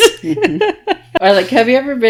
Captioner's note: laughing